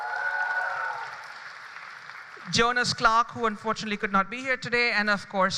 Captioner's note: applause